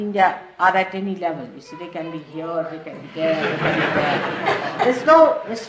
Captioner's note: laughter